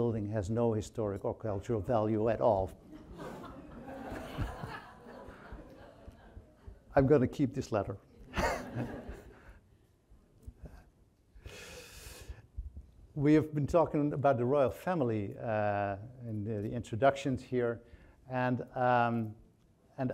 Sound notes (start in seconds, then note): 2.8 audience laughing; 8.2 chuckles; 8.2 audience laughing